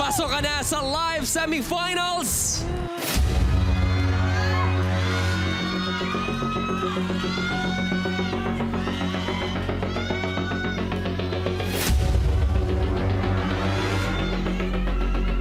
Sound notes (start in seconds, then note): 3.4 audience cheering; 3.5 tense music playing